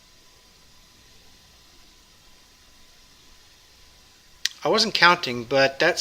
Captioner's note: pause